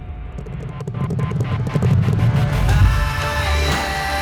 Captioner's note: horses Galloping